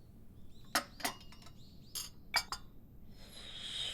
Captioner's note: spoon clanking against tea set; siiiip